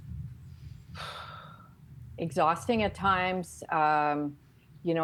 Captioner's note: sighing